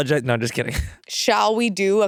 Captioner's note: chuckles